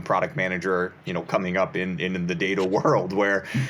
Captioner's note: chuckles